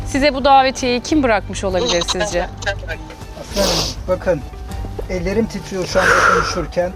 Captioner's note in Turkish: homurdanır